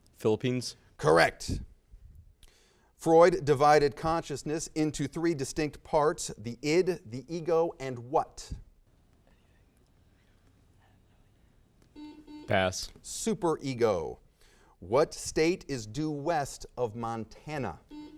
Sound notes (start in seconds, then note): 9.6 team whispers; 11.9 buzzer sounds